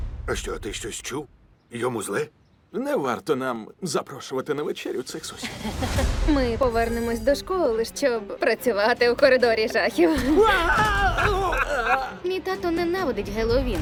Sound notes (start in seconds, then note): 5.8 tense music resumes; 10.0 laughs; 10.3 screams